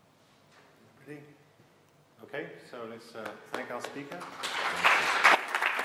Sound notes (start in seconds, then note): 3.5 applause